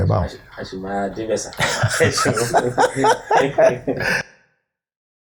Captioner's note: laughter